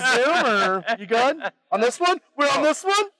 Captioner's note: laughs